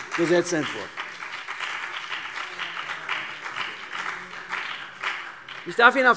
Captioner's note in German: Beifall CDU und BÜNDNIS 90/DIE GRÜNEN